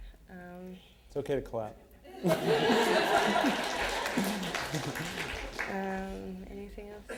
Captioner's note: laughter